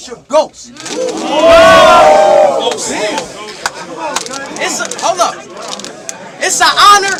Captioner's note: crowd Reaction